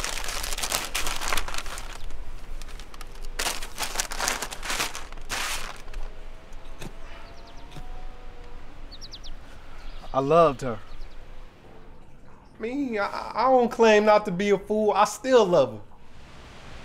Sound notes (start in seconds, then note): 0.0 paper bag rustles; 4.0 birds chirping